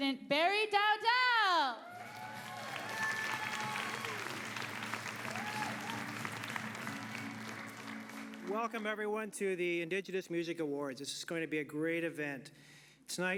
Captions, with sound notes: Please welcome to the stage, President Barry Dowdall. (cheering and applause) >> Welcome everybody to the Indigenous Music awards.